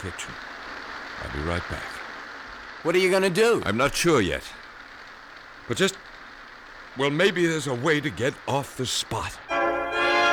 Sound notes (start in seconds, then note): 3.1 rain pouring